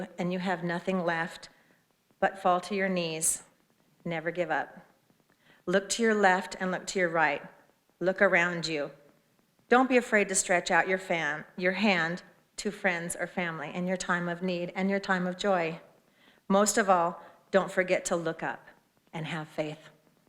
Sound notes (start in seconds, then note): none